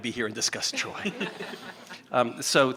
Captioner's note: chuckling